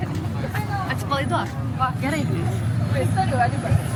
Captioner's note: people chattering